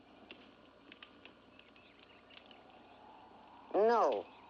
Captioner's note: fire crackles